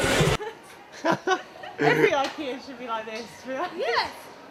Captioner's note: laughter